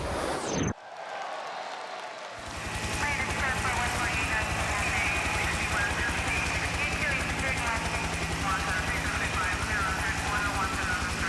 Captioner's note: crowd cheering